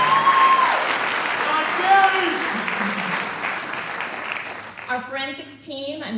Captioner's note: applause